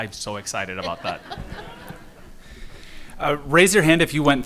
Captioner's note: audience and panelists laughing